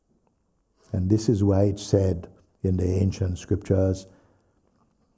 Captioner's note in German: none